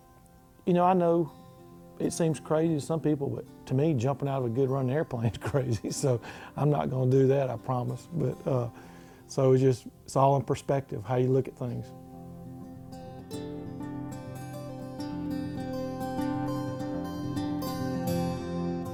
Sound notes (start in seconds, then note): 7.6 laughs; 14.4 guitar music